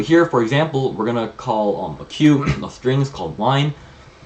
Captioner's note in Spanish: aclara la garganta